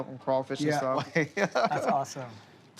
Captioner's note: laughs